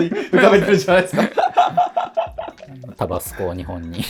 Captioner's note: laughing